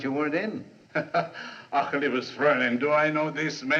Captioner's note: Von Brom, Laughing